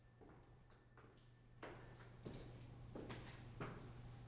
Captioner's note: footsteps